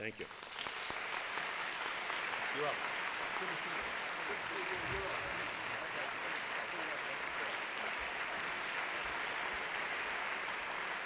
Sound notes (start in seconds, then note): 1.8 applause